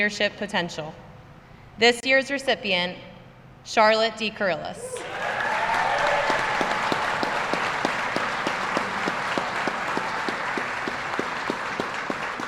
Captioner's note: applause